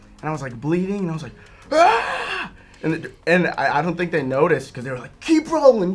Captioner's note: screams